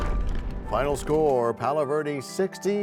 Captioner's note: crashing sound